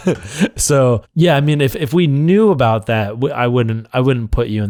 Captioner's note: laughs